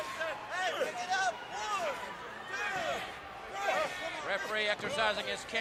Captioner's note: crowd chatter